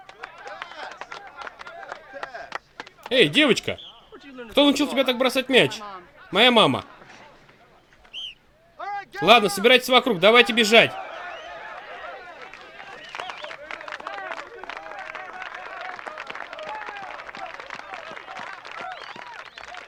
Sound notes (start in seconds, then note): 8.0 whistle blows; 11.2 cheering and applause